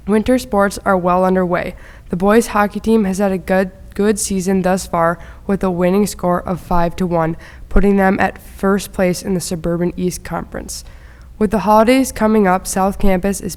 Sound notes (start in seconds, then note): none